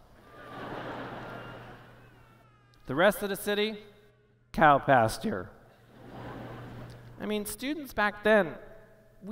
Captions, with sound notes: [ Laughter ] The rest of the city? Cow pasture. [ Laughter ] I mean, students back then,